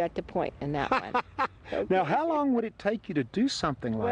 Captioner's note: laughs